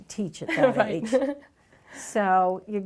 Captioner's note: chuckles